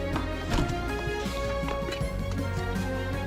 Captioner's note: gentle music continues; machine thuds; can lid clicks